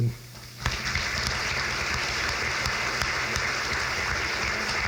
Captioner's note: crowd claps